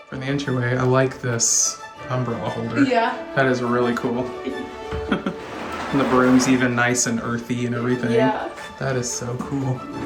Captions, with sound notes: In the entryway, I like this umbrella holder. Yeah! That is really cool! (Laughs) And the broom's even nice and earthy and everything. Yeah! That is so cool.